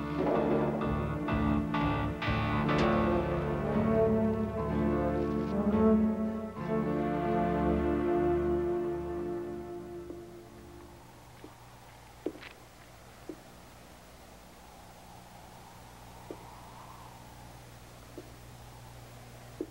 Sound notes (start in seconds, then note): 12.2 footsteps thudding; 12.3 wind whooshing